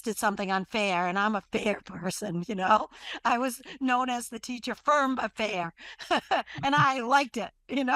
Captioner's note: laughs